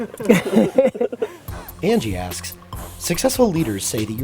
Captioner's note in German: Voice-over